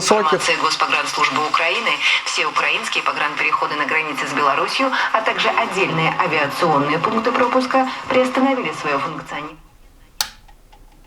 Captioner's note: news station is playing